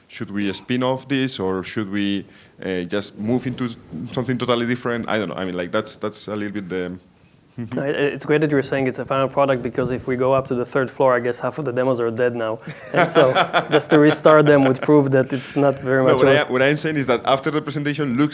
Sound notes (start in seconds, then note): 12.6 laughing